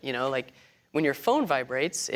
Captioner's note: none